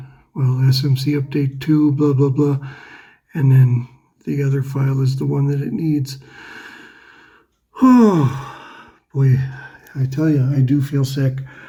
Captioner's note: sighs